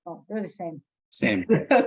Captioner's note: laughs